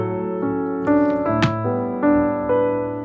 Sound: drawer closing

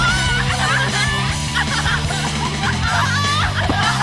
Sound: girls laugh

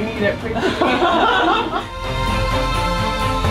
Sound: laughter; uplifting music

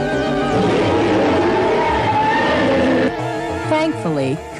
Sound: dragon roars

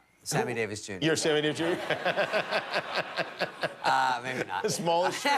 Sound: laughter

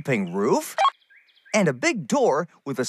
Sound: beep

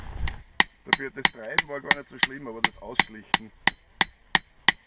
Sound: metalwork

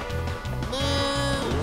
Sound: mooing

